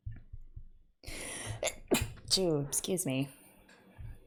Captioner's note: sneezes